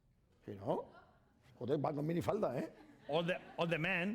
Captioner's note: speaking spanish